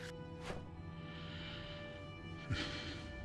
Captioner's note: sighs